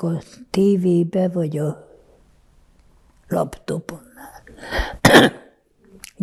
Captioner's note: coughing